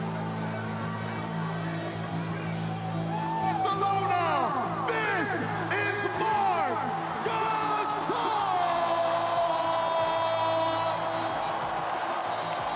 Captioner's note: cheering